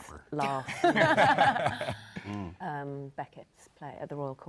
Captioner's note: panel laughs